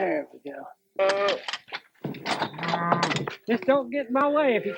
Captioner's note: cow moos